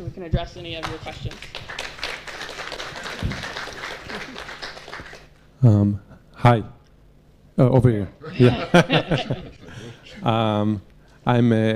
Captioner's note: applause